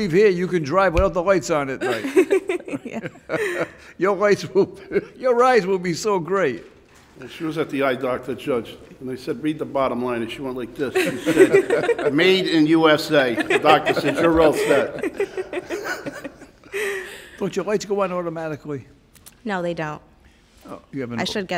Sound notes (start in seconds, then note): 1.8 laughing; 15.2 everyone laughing